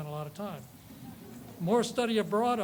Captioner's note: audience laughs